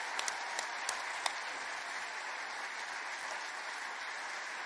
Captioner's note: cheers and applause